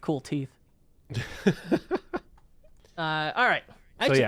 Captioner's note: chuckling